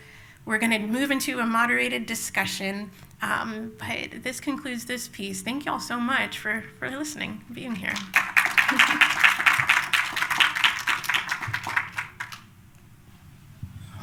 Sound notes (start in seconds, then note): 7.9 applause